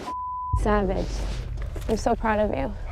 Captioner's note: beep